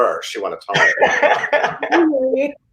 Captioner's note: Gideon laughs